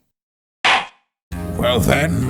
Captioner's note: gavel slams!